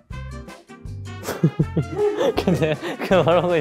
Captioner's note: failed to hold back laughter